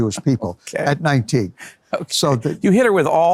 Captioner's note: laughs